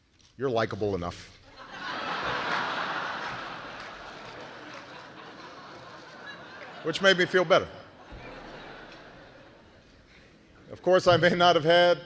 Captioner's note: laughter